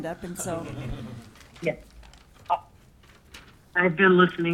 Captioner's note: laughing